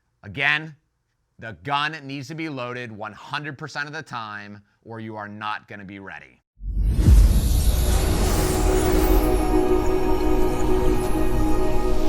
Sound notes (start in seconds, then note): 6.6 dramatic whooshing